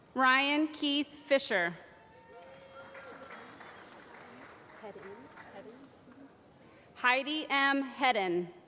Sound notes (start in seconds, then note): 2.2 applause